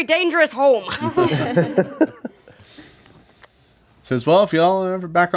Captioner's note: laughing